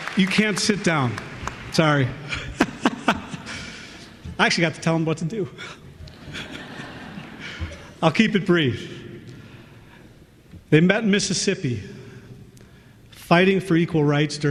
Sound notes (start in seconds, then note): 2.6 laughs